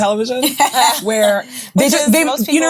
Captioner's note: ladies laughing